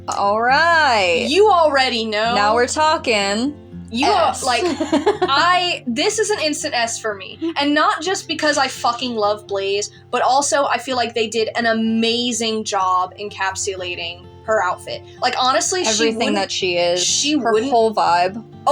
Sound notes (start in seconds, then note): 4.1 laugh